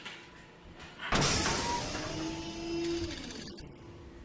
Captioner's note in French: son mécanique